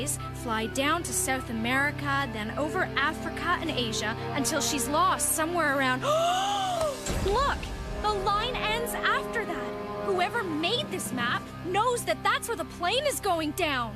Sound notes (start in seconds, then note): 5.8 gasp